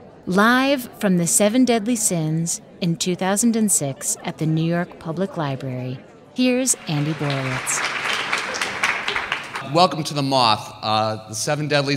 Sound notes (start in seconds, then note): 6.6 audience applauding